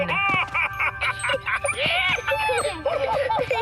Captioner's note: excited laughter